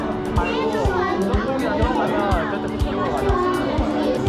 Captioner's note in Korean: 기분 좋은지 박수를 치네요